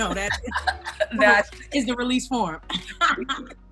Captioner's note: laughing